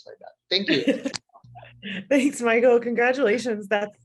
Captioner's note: laughter